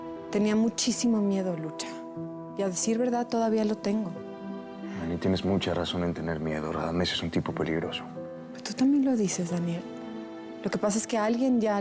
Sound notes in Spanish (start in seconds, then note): none